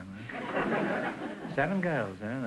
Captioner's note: audience chuckling